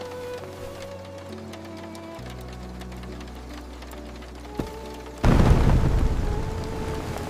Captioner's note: pages turning at the wooden table